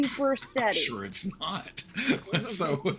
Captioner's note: laughs